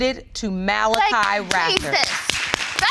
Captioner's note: clapping